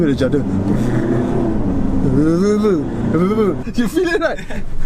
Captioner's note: judder sounds